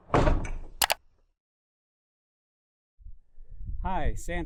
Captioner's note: icon rattles; icon clicks